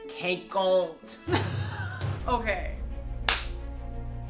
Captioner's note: laughs; claps dramatically